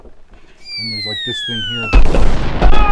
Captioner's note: high pitch whistle; explosion sound